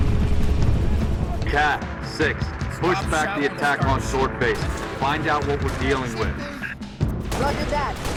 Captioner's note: radio